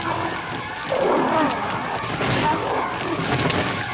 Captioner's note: grunting